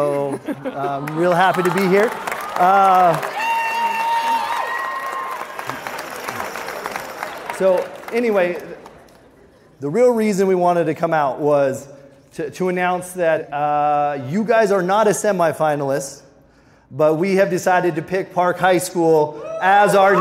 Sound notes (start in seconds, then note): 2.6 people cheering